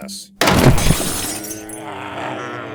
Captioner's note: crash, zombie noises; zombie noises